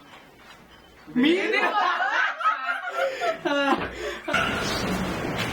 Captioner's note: laughs loudly